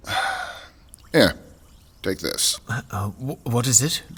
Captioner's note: sounds of drink fizzing